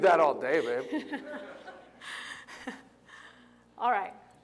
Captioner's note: laughter